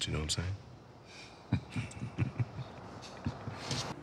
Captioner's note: laughs